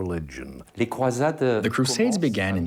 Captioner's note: speaking in foreign language